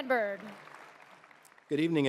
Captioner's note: clapping